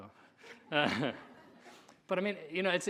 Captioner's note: audience laughing